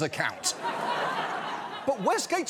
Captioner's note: laughter